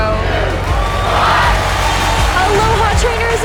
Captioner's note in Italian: conto alla rovescia termina, applausi